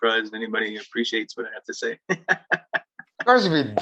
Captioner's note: laughing